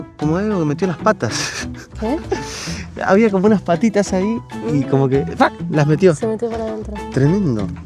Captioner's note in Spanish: risas